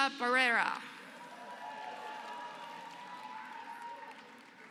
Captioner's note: applause